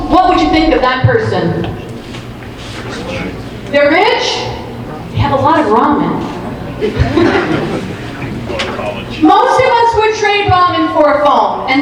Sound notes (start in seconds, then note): 3.7 audience murmuring; 6.7 audience laughing